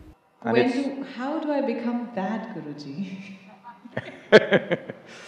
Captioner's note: 都笑了; both laugh